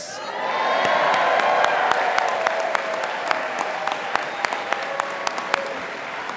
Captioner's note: audience applauding and cheering